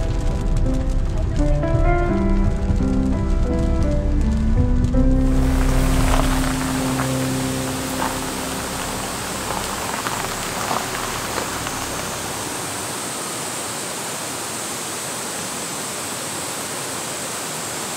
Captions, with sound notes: This is a video of camping alone without a companion. All video shooting and editing, including aerial video shooting(Drone), was done by myself. I came to Pitdle Auto Camping Site in Yeongdong-gun, Chungcheongbuk-do.